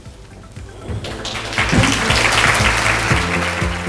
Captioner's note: audience clapping; light music